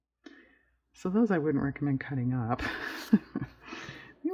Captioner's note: laughs